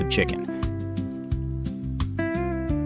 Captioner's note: sizzling